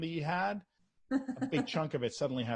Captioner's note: chuckles